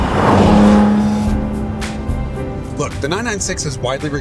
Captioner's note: engine revs